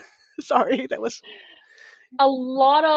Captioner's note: laughter